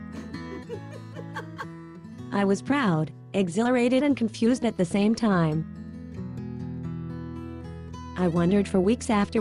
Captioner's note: chuckle